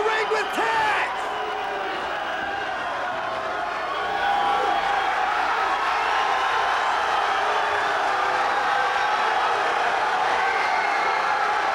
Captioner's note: applause